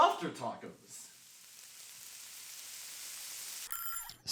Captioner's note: sizzling builds and an alarm goes off